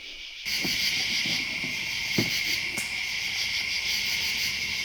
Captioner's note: insects chirping